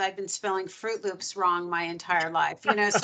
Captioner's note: laughing